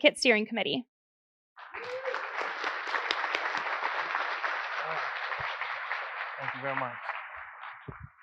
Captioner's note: applause